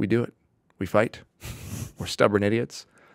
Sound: chuckling

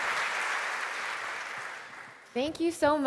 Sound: applause

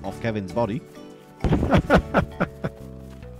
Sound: laughing

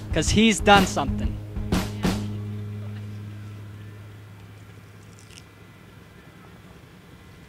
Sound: he swallows

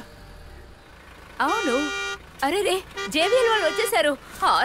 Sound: bus honking

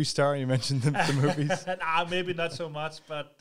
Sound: laughs

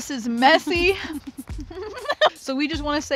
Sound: laughter

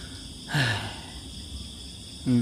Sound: sigh

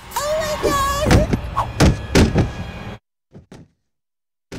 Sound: Khloe thumping

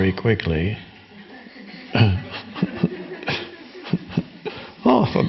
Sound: audience and Eckhart laughing in unison

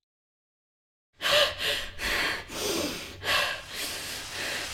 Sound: heavy, labored breathing; running water

